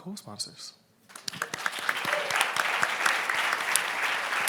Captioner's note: applauds